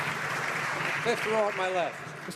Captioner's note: applause